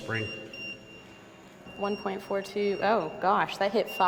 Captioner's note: EMF beeping